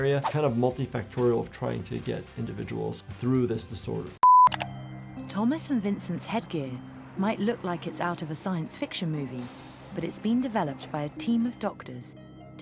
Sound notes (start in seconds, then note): 4.2 tone beeps; 4.3 mouse clicking